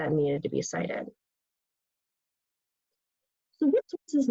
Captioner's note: pause